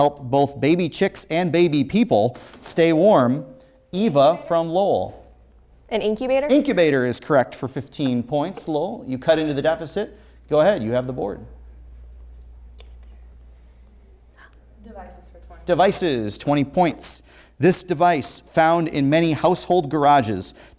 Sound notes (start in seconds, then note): 3.2 ringing